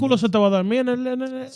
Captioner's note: speaking In Foreign Language